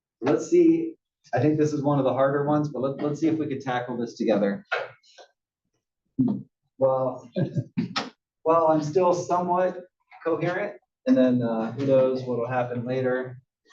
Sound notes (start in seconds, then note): 7.3 laugh